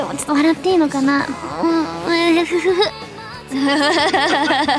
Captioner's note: laughs